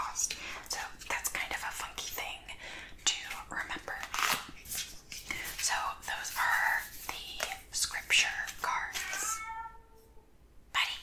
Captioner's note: meow